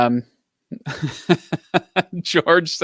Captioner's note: laughs